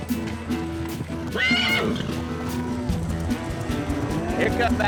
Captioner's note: whistles; horse whinnies